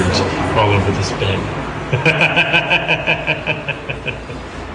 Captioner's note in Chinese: 笑声